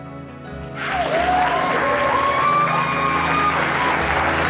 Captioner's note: cheering; applause